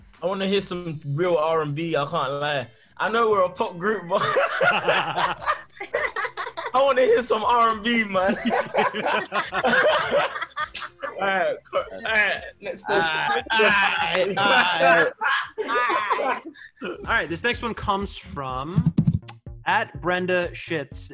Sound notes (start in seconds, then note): 5.2 laughs; 8.2 members laughing and screaming